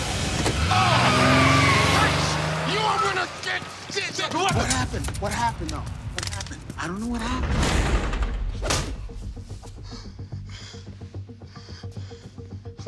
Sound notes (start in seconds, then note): 0.0 tires screeching; 7.4 cell door slamming; 8.6 fist punching face; 9.4 heavy breathing